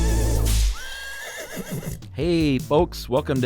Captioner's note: whip cracking; horse neighing